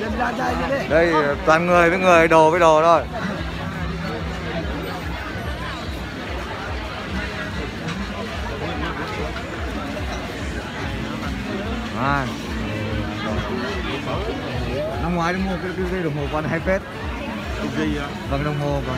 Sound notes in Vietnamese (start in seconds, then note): 4.9 Tiếng ồn ào trong chợ